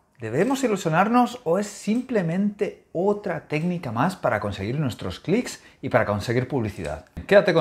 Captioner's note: clicks